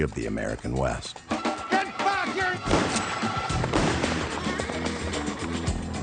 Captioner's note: gun firing; upbeat music